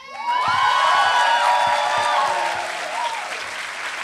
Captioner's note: applause